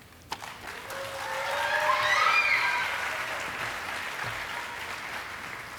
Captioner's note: audience applauding and cheering